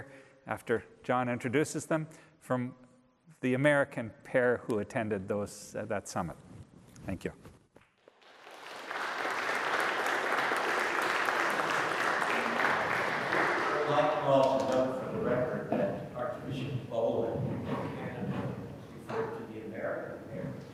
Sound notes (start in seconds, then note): 8.0 audience applauds